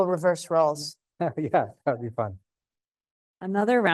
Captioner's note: chuckles